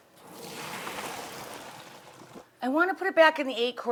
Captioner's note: steam sizzles